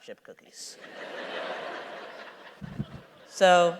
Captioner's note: laughter